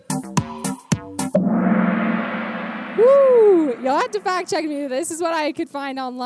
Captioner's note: gong sound